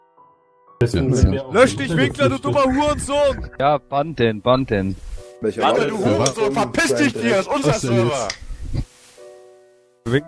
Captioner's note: hater are shouting